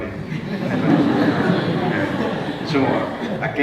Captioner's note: congregation laughs; foreign language